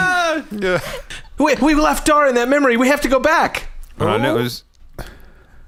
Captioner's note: shouting